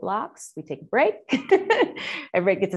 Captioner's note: chuckling